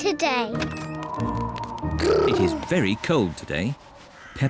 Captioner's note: wind whistles